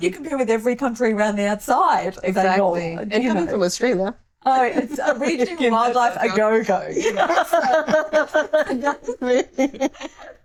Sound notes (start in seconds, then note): 8.5 laughing